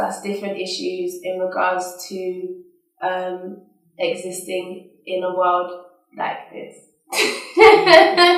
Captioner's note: laughs